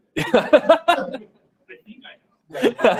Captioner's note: laughter